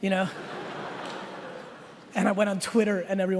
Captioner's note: laughing